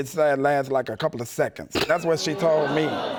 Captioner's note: audience exclaims